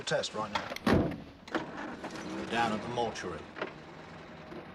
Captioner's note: Mesin berputar